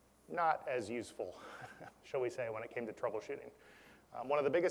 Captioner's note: laugh